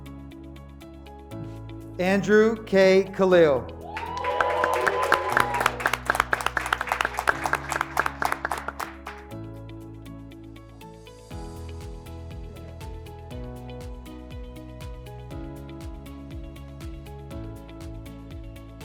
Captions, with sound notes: Andrew K. Kalelle, (graduates clapping) (graduates cheering)